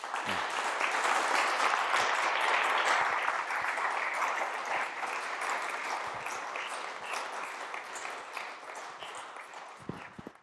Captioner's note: applause